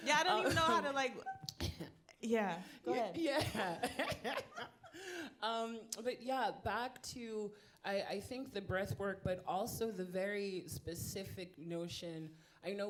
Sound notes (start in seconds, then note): 4.7 laughing